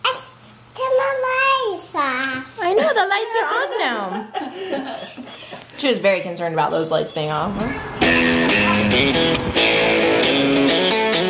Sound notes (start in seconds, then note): 2.6 women laugh; 7.7 upbeat rock music